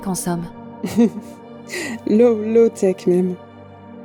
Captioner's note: Arunika laughs